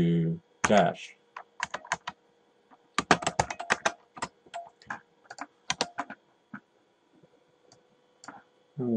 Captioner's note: typing